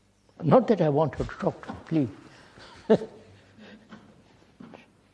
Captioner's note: laughs